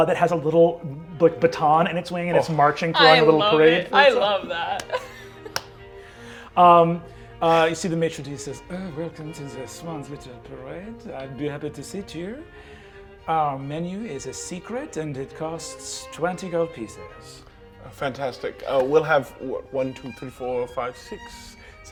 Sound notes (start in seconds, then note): 7.1 laughs; 9.1 French accent